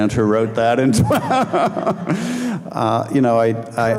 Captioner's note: laughing